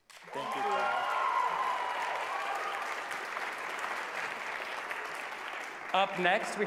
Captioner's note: applause